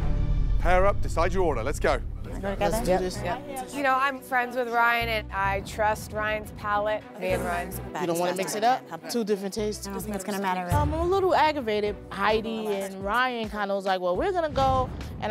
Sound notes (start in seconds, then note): 2.2 chatting